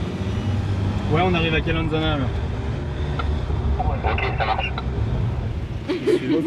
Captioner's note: radio